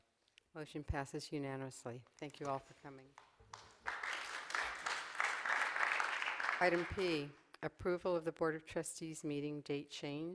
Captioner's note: applause